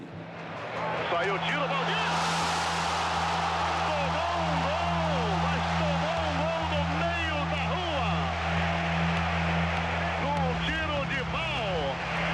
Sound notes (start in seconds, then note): 2.5 crowd roaring